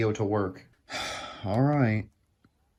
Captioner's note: sigh